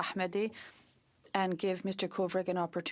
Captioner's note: speaking French